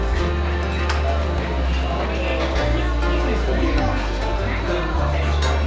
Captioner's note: people chattering